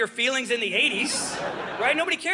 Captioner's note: audience laughing